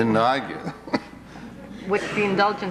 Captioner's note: chuckles